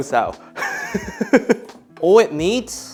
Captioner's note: laughs